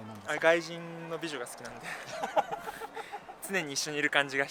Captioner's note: laughs